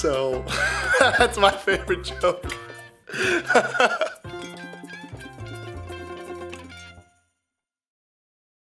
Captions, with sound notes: So that's my favorite joke. (laughter)